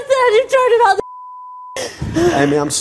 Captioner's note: beep